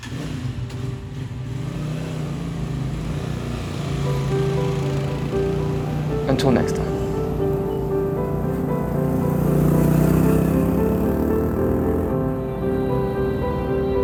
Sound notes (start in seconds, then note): 0.3 engine revs; 8.1 light music; 10.4 engine revving